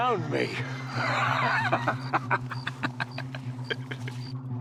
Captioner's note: laughing